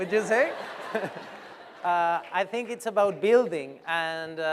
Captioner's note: laughter